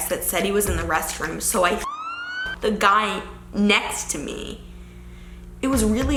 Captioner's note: siren wailing